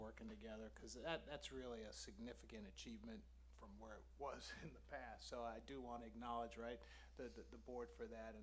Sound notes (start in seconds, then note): 4.3 laughs